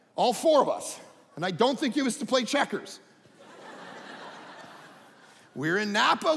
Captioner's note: audience laughing